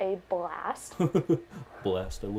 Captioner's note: laughs